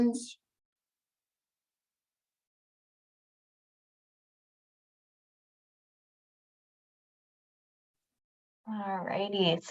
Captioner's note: silence